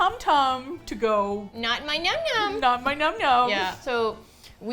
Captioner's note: high voice